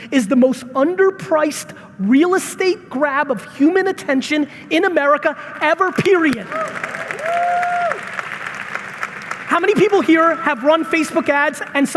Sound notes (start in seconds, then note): 6.2 audience applauding